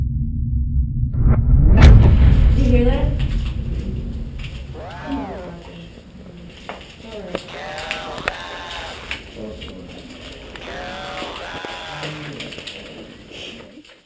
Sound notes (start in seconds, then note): 0.4 dramatic music; 7.8 disembodied Voice